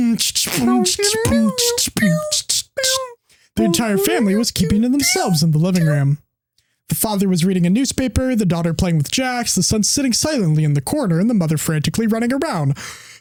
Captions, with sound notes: (imitating music) The entire family was keeping themselves in the living room. The father was reading a newspaper, the daughter playing with Jax, the son sitting silently in the corner, and the mother frantically running around,